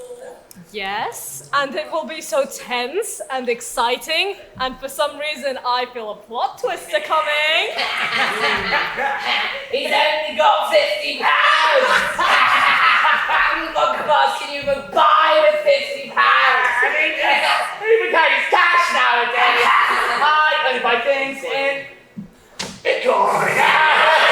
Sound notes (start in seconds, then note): 7.9 Meanies laugh; 23.2 Meanies laugh